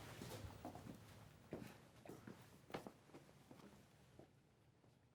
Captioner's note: footsteps departing